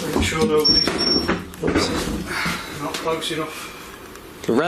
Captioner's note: drowned out by beeping